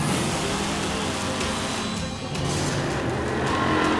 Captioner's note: engine roars